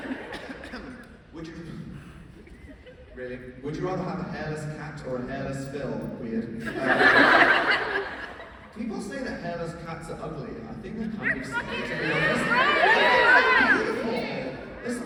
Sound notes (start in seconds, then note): 0.3 clears throat